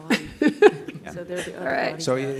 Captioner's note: laughter